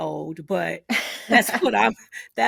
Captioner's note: both laughing